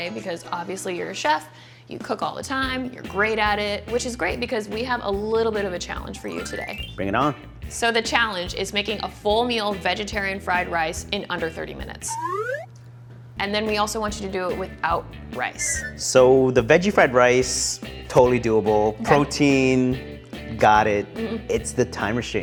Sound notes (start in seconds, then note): 12.0 slide whistle